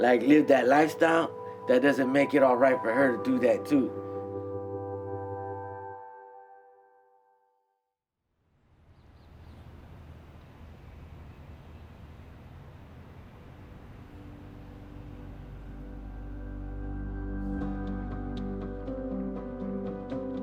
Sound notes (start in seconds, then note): 8.6 city ambience; 8.8 birds chirping